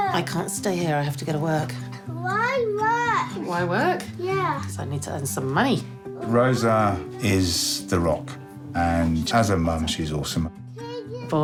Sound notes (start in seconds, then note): none